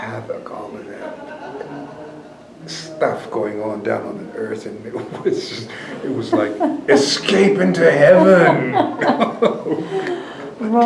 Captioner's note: laughter